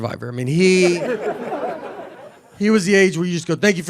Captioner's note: audience laughing